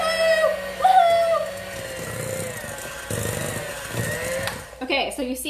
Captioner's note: mixer whirring